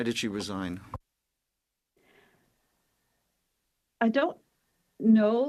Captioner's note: speaking French